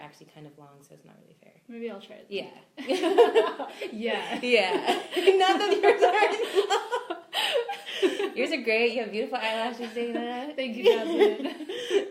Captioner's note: both laugh